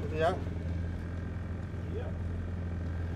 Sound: whooping

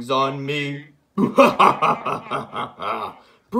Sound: Bowser guffaws

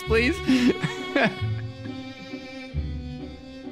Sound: laughing

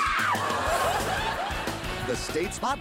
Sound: laughs

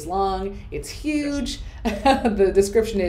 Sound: laughs

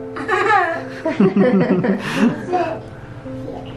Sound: laughs

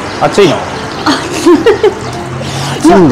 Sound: laughs

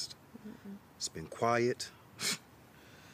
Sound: scoffs

